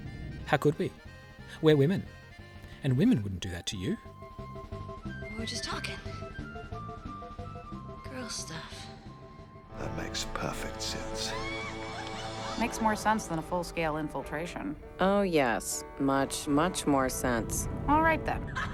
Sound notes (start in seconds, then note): 11.9 sinister female laughter